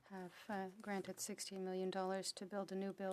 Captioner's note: speaking French